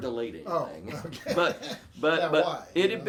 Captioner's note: laughing